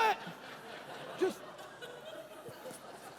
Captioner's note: congregation laughing